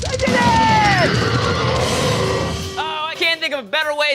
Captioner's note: screaming